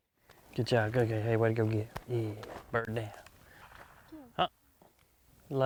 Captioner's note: faintly speaking